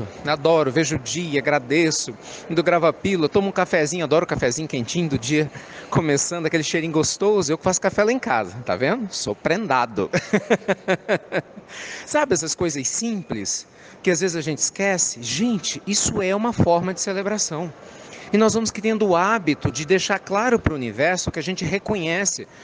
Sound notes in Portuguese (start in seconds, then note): 10.1 Risos